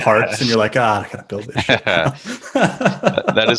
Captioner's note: laughs